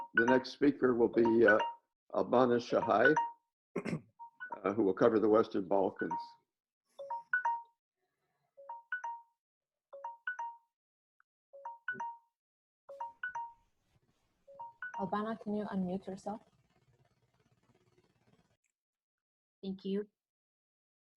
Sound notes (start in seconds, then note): 6.0 alarm ringing